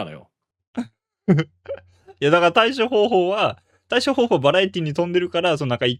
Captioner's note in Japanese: 笑い